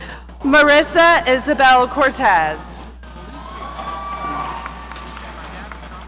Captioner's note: audience cheering